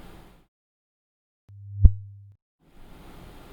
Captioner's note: sound of sinc function